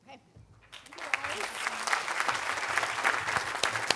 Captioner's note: audience applauding